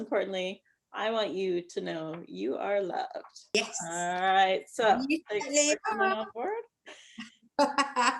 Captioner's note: makes musical sounds